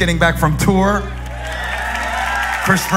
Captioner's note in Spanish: Aplausos